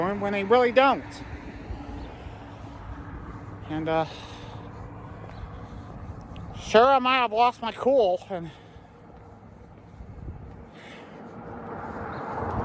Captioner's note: Trafic on Saint Joe Road